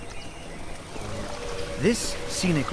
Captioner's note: birds chirping; wings flapping